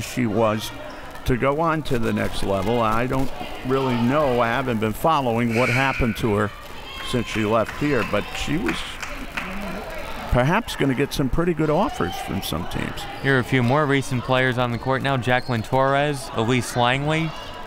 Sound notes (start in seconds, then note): 5.5 buzzer